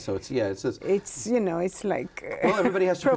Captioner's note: laughs